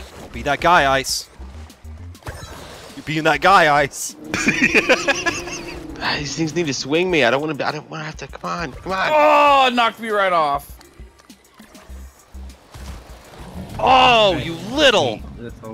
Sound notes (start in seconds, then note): 4.3 laughter